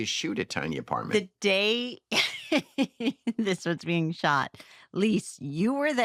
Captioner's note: chuckles